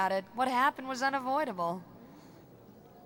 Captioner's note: none